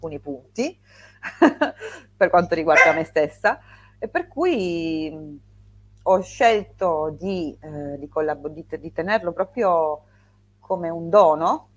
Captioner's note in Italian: risate